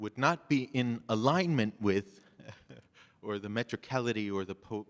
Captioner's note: chuckles